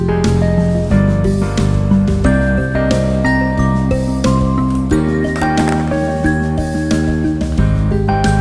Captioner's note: scissors